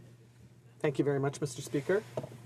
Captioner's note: speaking in french